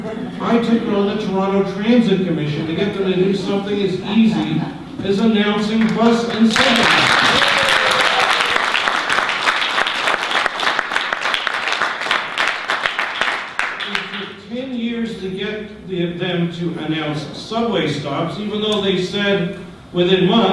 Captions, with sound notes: I took on the Toronto Transit Commission to get them to do something as easy as announcing bus and subway stops. [audience applause] It took ten years to get them to announce subway stops, even though they said within months